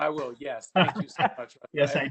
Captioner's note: laughing